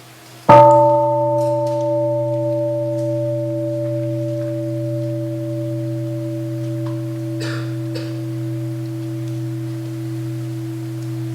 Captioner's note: second sound of the bell